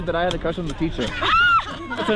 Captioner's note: laughter